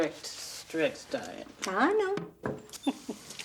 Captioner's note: chuckles